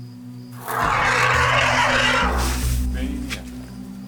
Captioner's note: rumbling